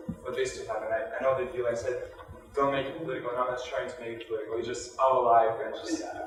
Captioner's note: audio distorting speakers' voices